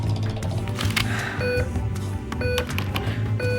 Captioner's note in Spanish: pitido